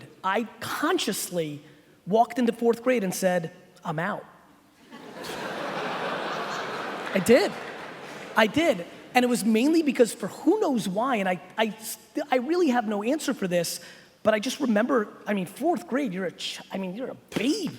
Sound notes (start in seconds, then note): 4.9 audience laughs